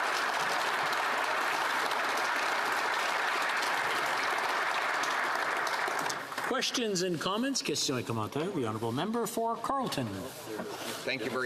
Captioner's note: some Applause